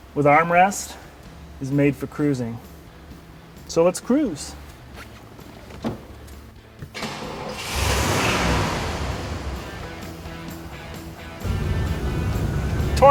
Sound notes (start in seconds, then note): 6.9 engine revs; 10.0 rock music